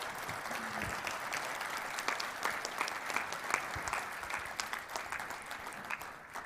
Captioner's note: applause